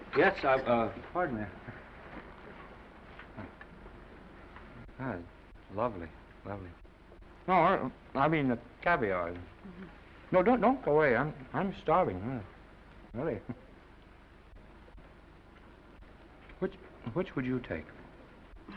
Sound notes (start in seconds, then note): 9.5 Esther chuckles; 13.3 chuckles